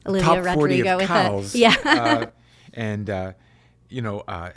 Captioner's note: laughs